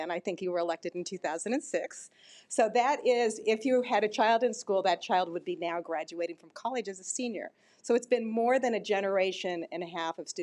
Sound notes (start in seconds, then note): none